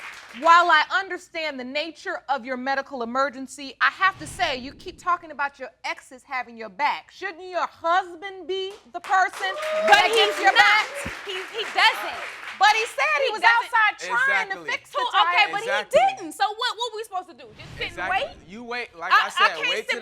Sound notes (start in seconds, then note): 8.7 audience clapping